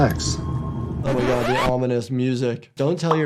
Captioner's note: record scratches